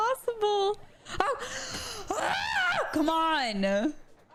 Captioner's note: screaming